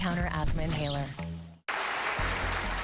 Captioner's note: applause